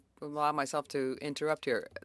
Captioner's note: speaking French